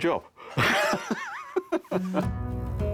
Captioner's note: laughing